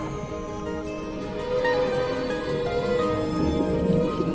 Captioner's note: whales calling